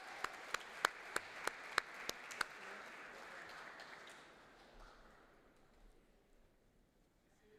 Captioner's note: applause